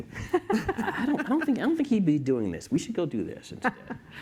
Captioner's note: laughter